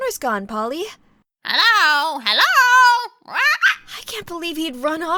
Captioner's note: squawk